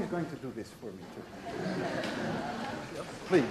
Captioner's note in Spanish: La clase ríe